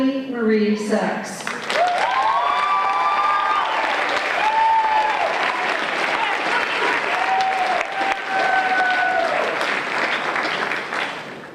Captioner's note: applause